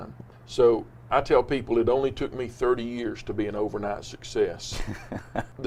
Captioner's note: laughs